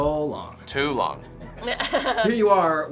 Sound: chuckles

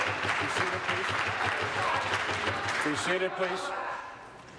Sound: applause

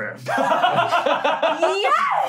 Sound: laughing

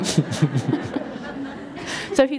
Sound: laughter

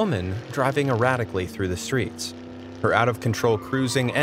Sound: car roaring

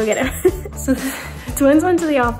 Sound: laughs

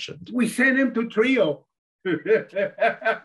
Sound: laughs

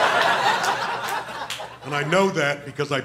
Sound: laughter

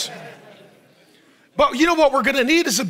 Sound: audience laughs

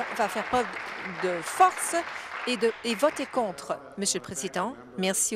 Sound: applause

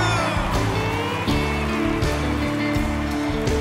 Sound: crowd cheering

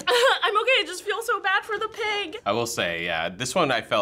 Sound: whimpers

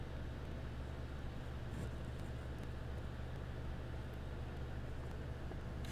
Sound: insert spoopy VHS noises here XD

